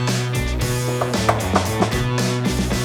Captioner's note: knocks